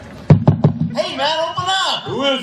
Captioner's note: loud knocking